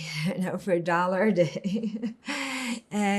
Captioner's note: laughing